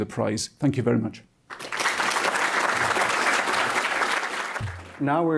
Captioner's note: applause